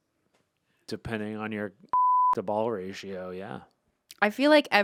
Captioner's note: beep